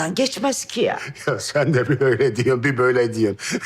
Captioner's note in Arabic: يضحك